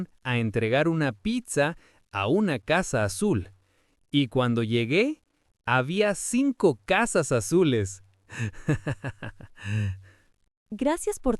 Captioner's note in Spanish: risas